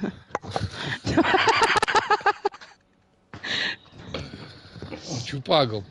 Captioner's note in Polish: śmiech